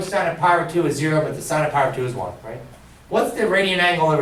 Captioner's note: none